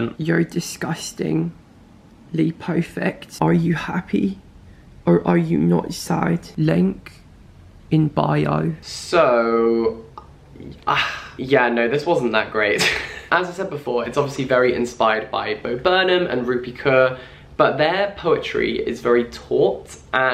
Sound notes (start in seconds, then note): 9.1 sighs; 13.0 laughs